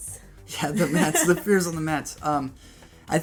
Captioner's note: laughter